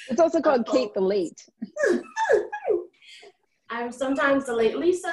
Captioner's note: laughs